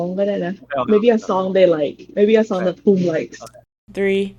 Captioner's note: in Thai